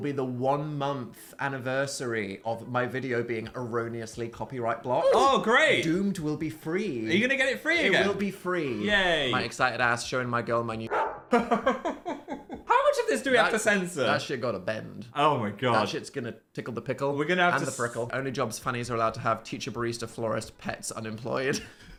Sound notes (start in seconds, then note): 10.9 dog barks; 11.3 Phil laughing